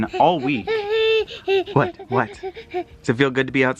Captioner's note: baby noise